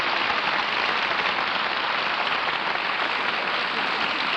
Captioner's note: applause